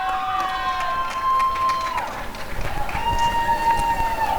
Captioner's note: applause and cheering